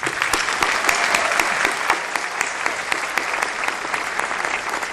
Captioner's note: applause